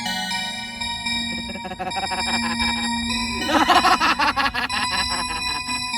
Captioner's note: Indigo laughs